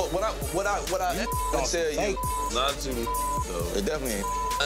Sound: beep; beep

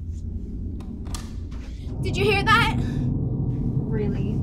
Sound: clicking

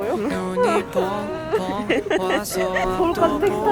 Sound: cries

